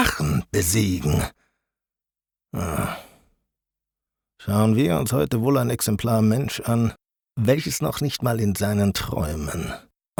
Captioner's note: sigh